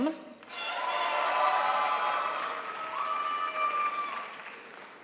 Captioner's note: crowd applauds